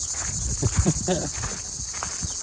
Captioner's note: chuckle